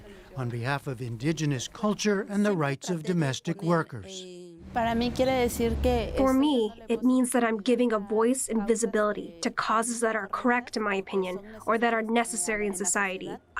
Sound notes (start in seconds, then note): 5.0 through translator